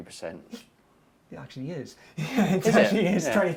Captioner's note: laughing